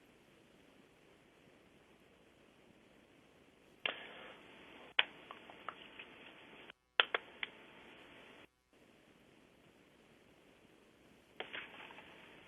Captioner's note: pause